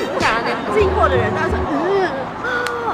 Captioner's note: driving